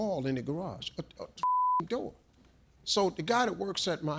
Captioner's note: beep